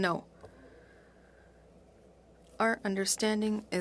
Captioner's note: speaking French